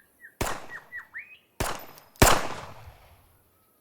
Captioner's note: guns firing